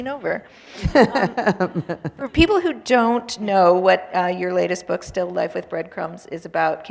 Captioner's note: laughter